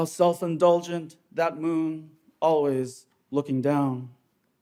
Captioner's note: none